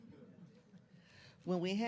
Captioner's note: laughs